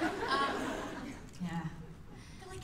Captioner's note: laughter